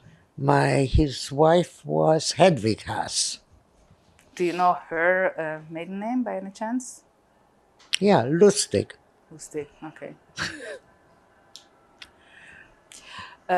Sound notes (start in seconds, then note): 10.4 laughing